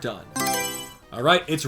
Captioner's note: Mario Selection Sound